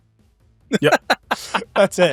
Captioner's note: laughing